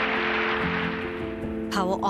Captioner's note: audience clapping